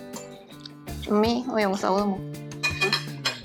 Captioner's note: Cantonese